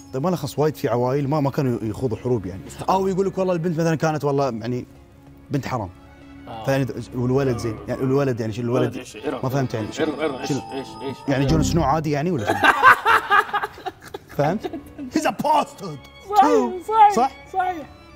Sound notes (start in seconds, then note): 12.4 laughs